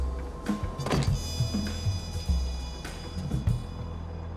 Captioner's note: car door slams